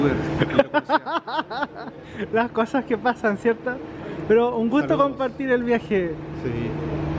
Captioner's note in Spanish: risas